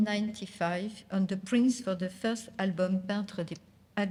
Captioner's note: speaking french